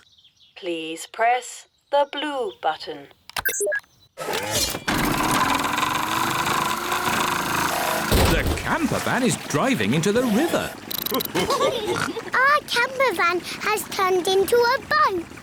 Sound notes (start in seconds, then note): 11.1 all laugh